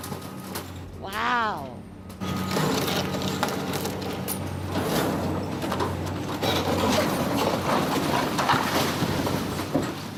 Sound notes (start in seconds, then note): 2.3 breaking rubble